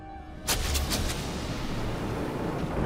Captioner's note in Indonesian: kilat menyambar